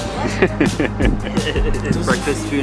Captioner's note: laughs